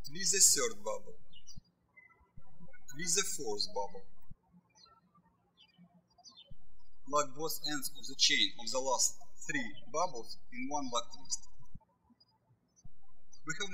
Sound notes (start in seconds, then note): 4.5 birds chirping